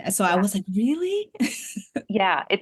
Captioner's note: laughs